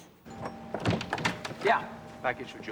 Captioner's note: rings doorbell